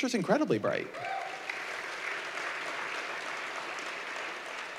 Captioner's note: applause